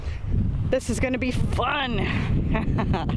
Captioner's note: chuckle